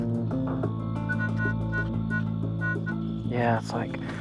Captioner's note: beeping